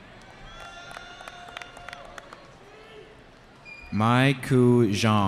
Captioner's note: cheering